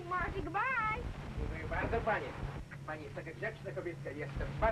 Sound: speaking in Spanish

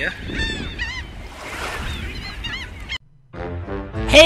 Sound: seagulls squawking; carnival music

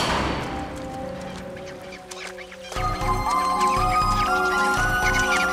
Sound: squeaking

